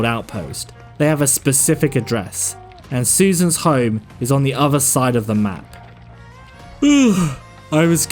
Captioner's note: yawn